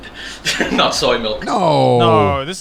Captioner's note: man chuckles